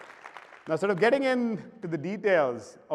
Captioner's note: applause